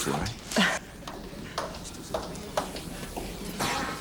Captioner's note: laughing